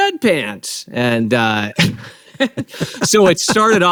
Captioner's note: both laughing